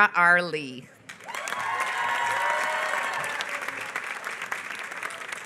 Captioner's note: applause